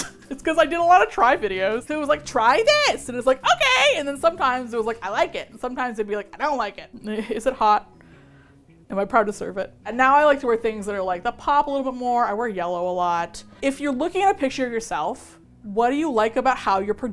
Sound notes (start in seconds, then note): 6.7 laughs